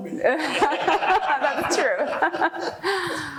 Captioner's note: laughing